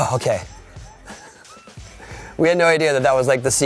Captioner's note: laughing